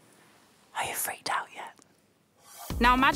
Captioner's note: whispers